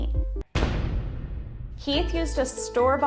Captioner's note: dramatic crash